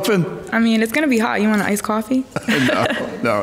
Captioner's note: laughs